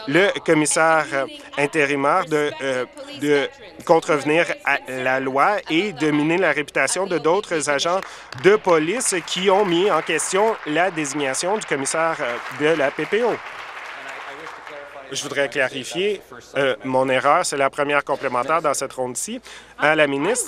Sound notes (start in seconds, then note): 14.3 applause